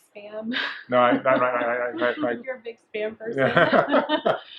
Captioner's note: laughs